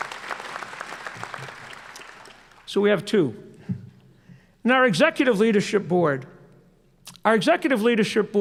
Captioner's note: applause